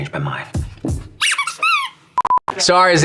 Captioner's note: toy squeaking